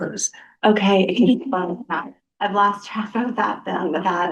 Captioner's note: laughter